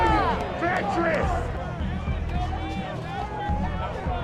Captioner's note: crowd talking